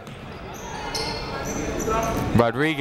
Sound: people shouting in the crowd

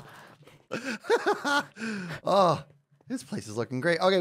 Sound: laughs

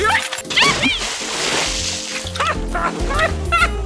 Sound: water splashes; screams; owl laughing

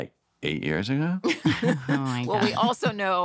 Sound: laughter

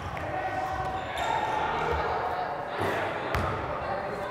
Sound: overlapping chattering

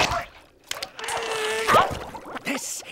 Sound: grunting

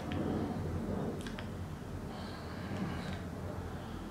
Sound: saliva noise intensifies

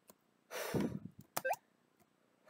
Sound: dramatic exhaling

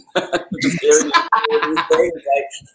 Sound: laughs

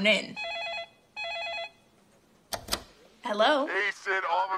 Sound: phone rings

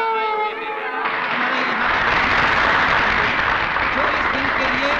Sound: applause

